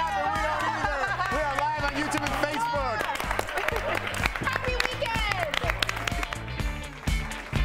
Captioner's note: laughter